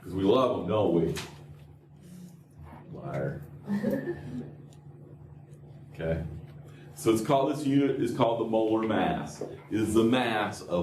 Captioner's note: laughter